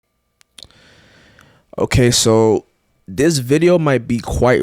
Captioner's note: lips smack